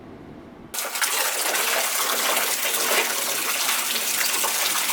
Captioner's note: running water